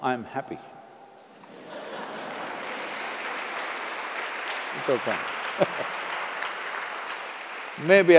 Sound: applause; laughs

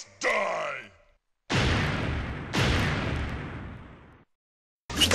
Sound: lightning crashes twice

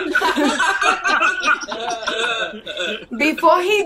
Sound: laughter

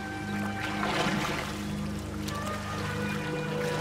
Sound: splashing

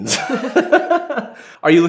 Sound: laughter

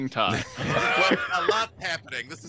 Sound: all laugh

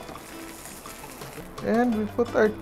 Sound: sizzle

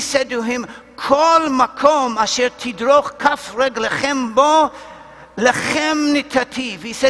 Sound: Hebrew

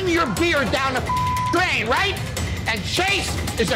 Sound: beeping

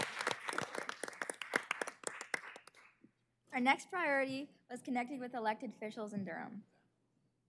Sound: cheers and applause

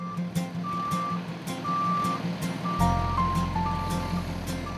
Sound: truck reversing beeping

